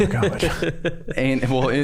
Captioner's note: all laughing